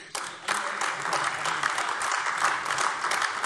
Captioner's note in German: Beifall AfD